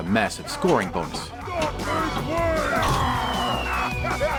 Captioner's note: viking noises